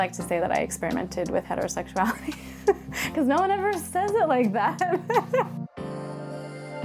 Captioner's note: laughs